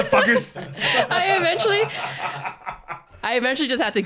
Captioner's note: both laughing